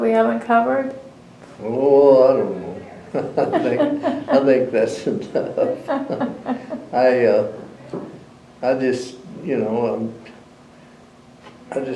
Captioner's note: laughs